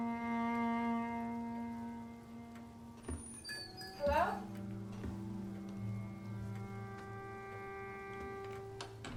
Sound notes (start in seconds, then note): 1.0 somber music continues; 3.4 bells jingle